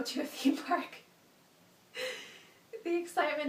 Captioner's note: laughs